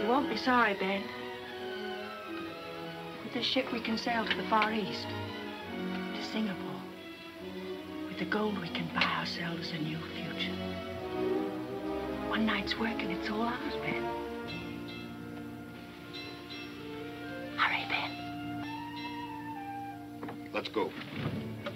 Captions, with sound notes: - You won't be sorry, Ben. With this ship we can sail to the far east, to Singapore. With the gold we can buy ourselves a new future. One night's work and it's all ours, Ben. (bell ringing) - Hurry, Ben. - Let's go.